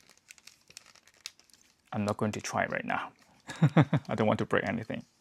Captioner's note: chuckles